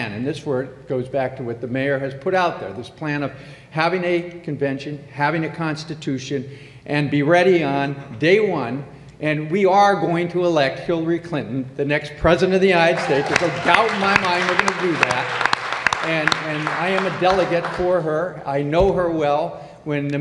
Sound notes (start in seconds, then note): 12.9 applause